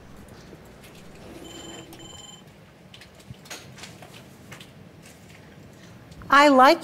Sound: phone rings; keyboards click

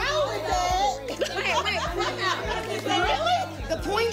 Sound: laughing

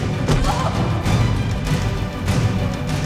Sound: loud groaning; dramatic music

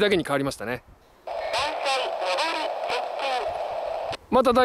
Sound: inbound train approaching

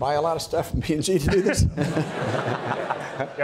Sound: laughing; audience laughing

